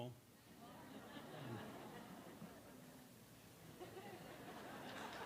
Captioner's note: laughter; applause